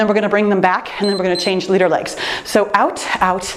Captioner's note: timer beeps